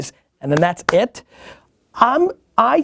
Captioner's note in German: Hände schmatzend